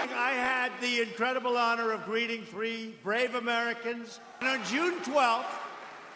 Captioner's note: cheers and applause